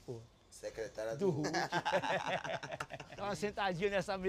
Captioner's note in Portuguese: ambos riem